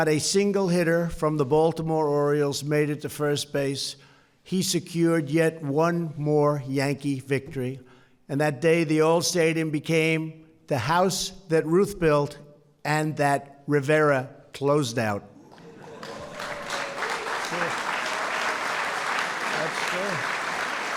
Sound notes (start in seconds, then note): 15.4 applause